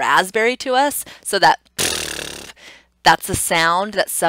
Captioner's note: blowing a raspberry